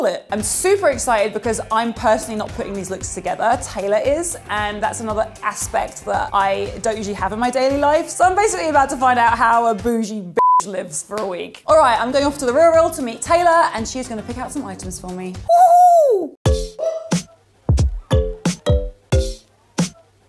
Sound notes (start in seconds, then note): 10.4 beep; 17.6 funky music